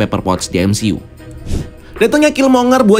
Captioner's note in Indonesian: suara transisi